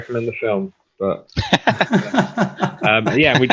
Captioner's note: laughing